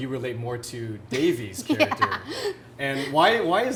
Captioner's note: laughs